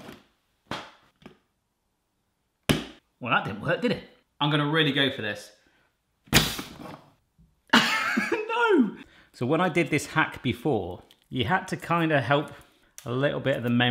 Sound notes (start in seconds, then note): 6.3 thump and hiss